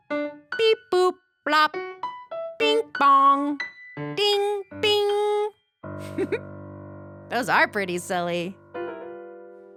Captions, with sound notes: Beep, boop, blop. Bing, bong, ding, bing. (giggles) Those are pretty silly.